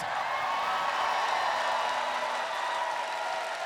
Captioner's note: applause